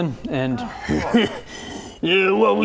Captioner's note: troll grunting